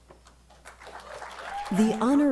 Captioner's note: applause